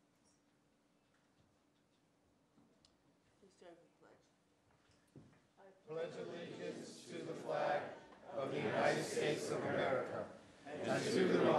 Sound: moment of silence

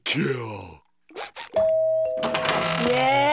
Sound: doorbell ringing

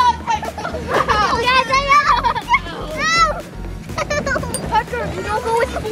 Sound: kids grunting and laughing

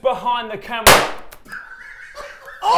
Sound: balloon popping; laughing loudly

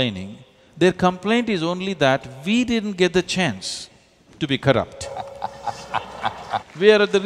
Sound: applause

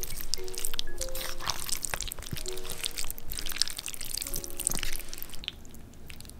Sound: gulp

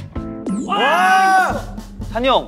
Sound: A loud cry

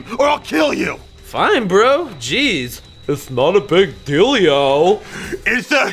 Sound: mockingly

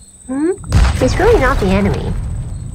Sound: boom

